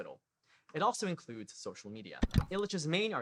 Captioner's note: click